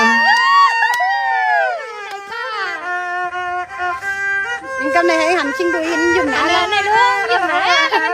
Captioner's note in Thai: ปรบมือ